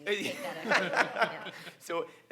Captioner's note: laughs